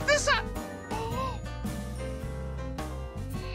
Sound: gasps

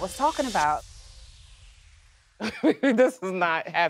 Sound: laughs

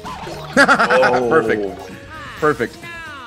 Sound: laugh

